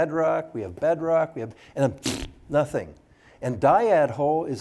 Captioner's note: blows raspberry